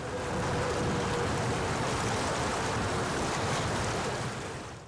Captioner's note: boat engine revving